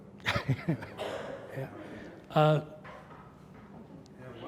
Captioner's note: laughs